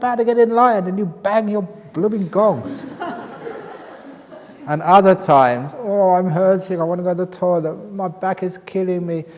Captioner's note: laughter